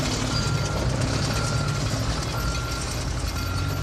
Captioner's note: vehicle reversing